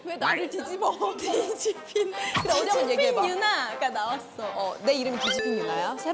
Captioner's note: burst out in laughter